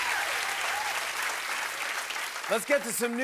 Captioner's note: cheers and applause